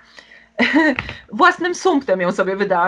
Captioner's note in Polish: śmiech